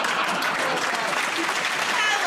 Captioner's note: laughter; applause